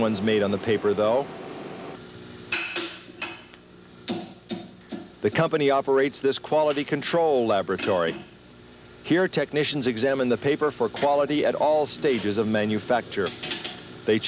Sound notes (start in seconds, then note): 2.0 metal clanking